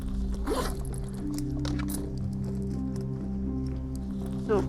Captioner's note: zipper slides